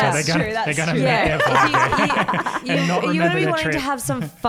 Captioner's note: all laugh